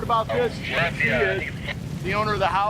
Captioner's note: radio chattering